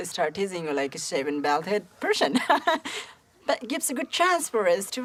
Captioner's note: chuckles